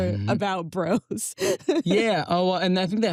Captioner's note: chuckles